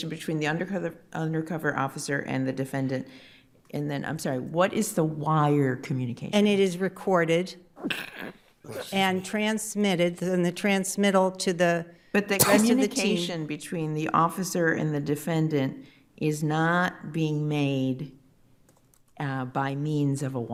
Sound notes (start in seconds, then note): 7.8 sneezes; 12.4 attendee coughing